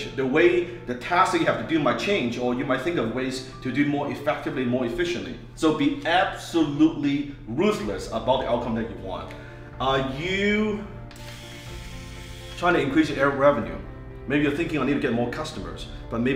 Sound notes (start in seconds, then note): 11.0 razor buzzing